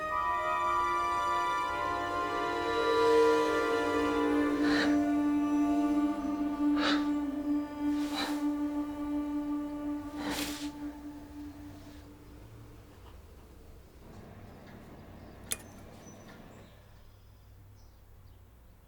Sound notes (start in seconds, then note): 2.9 soft ringing noise; 4.7 shallow breath; 6.7 soft gasp; 15.5 spatula taps